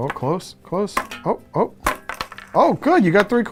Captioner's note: whip lashing; coins dropping